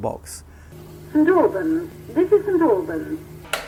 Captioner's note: station announcement